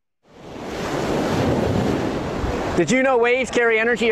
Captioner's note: air whooshing